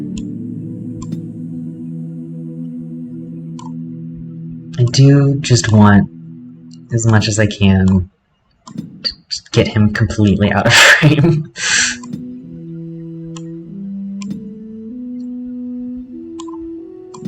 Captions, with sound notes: I do just want, as much as I can, to just get him completely out of frame. [Laughter]